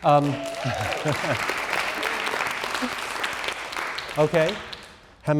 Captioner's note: everyone applauding